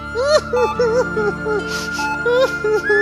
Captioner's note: Arsi crying in the hospital